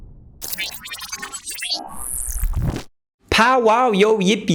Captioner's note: robot beeping sounds